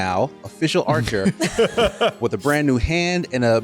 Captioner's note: laughter